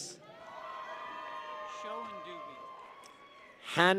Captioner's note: people cheer